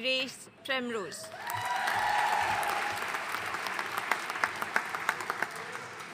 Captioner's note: audience cheering and applauding